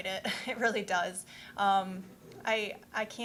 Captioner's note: chuckling